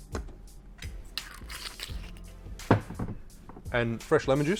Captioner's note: liquid pours; lid twists